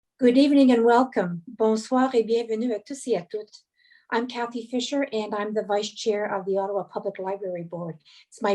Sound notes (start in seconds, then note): 1.7 speaking French